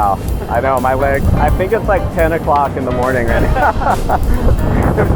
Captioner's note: laughs